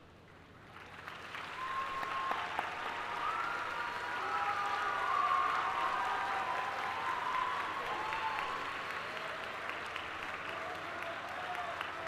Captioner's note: applause